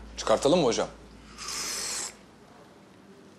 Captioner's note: drank the tea loudly